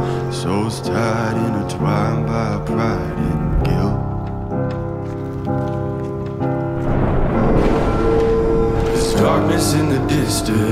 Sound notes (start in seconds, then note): 6.8 thunder